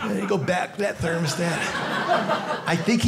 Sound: audience laughing

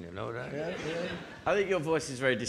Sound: audience laughing

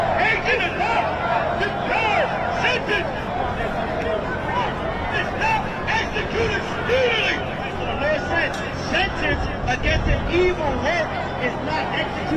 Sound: crowd chanting

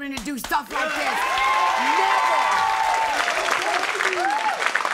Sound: cheering

